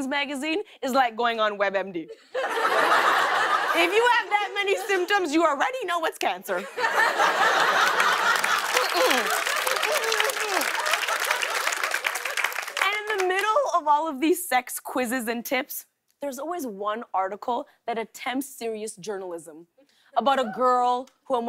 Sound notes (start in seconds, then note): 6.6 laughter and applause; 10.6 laughter